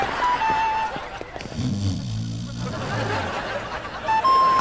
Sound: snoring

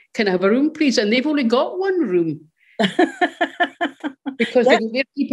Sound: chuckles

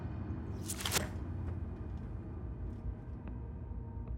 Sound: spear tearing flesh

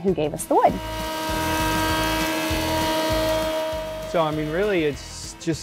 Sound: planer whirring

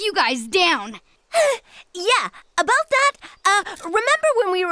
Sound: gasp

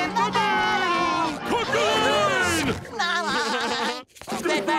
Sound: laughing

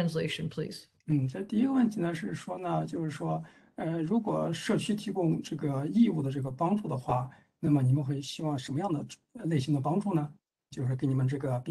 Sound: speaks in Mandarin

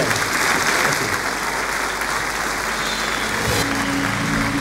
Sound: applause

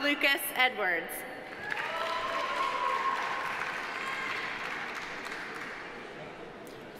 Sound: audience applauding; audience cheering

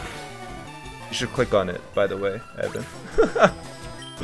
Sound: laughs

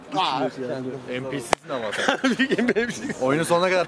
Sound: laughing

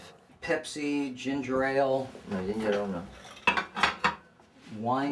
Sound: dishes clatter

